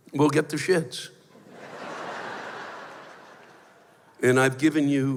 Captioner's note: laughter